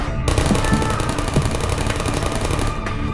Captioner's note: turret voices continue